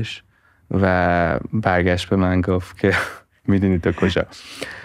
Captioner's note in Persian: خنده